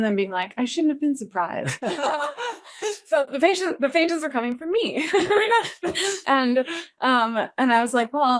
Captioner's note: laughs